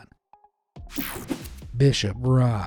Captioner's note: screen whooshing